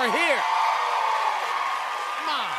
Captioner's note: cheers and applause